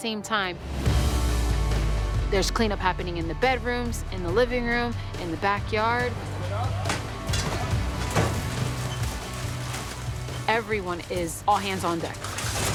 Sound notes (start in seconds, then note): 0.3 upbeat music playing; 6.4 indistinct chatter